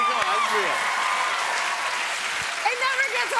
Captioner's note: cheers and applause